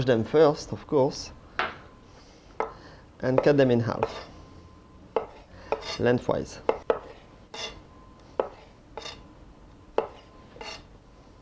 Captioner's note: cutting sounds